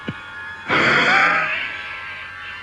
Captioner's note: rasping breath